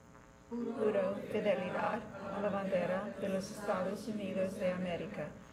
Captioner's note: all speaking in foreign language